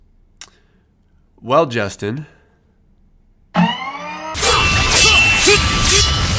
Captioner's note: sword slashing and man grunting